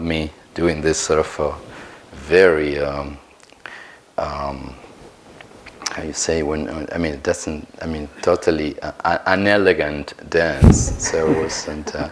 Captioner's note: laugh